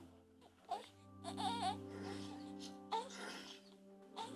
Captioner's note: baby cooing